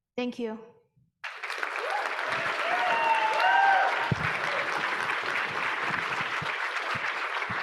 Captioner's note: audience applauding; audience cheering